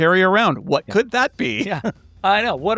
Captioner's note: chuckles